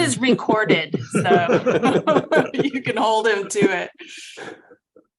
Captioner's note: panelists laughing